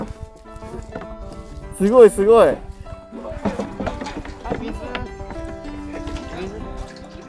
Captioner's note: laughs